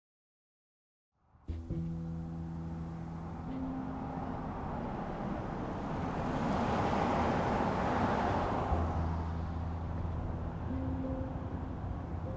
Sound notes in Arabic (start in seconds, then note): 1.5 موسيقى بيانو هادئة; 1.5 هدير سيارة